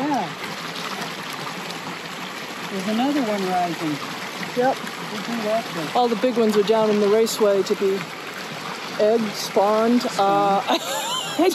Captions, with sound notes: - Yeah. (water splashing) There's another one rising. - Yep. Oh, all the big ones are down in the Raceway to be...Egged? Spawned? Uh-